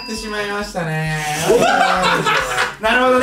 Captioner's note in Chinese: 邪惡笑聲